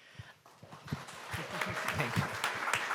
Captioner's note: audience applauding